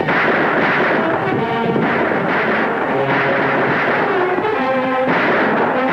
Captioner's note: horse cantering; guns firing; tense music